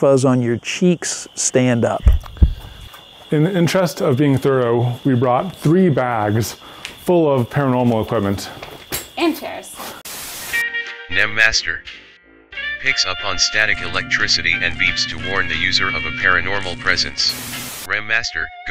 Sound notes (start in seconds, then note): 10.1 white noise hisses; 10.3 jaunty music; 17.2 white noise hisses